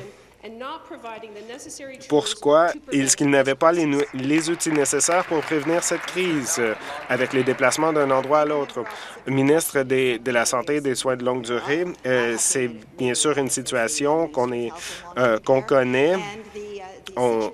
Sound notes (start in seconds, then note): 8.5 applause